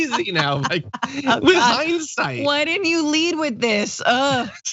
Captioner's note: laugh